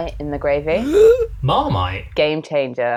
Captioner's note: gasp